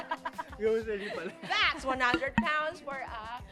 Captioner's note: laughter